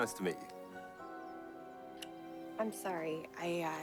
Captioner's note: kiss